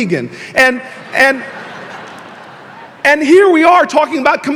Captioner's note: audience laughing